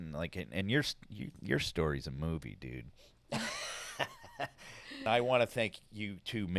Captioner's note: laughs